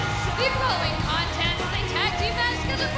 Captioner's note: bell ringing